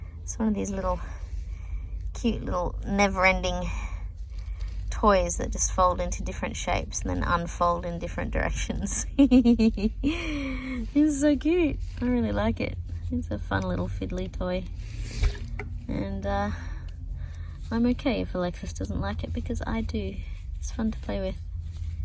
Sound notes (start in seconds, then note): 8.8 giggles